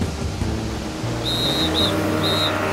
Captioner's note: whistle blowing